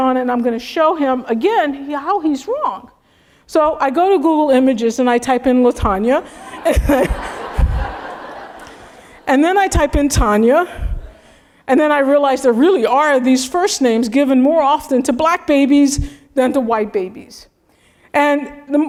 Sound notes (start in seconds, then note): 6.2 laugh